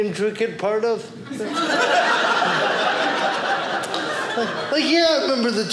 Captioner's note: audience laughing